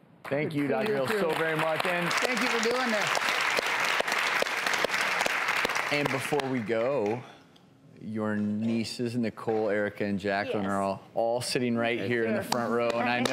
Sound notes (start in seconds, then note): 3.2 audience applause